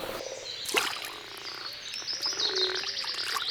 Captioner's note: frog croaking